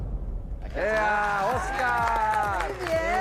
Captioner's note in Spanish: Exclamación